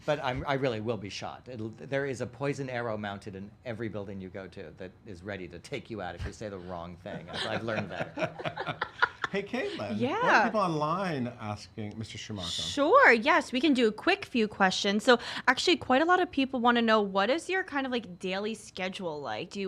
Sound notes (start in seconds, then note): 7.2 laughing